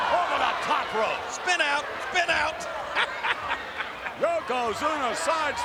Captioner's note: laughs